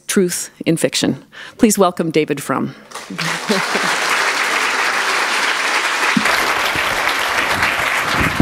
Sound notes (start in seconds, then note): 2.9 applause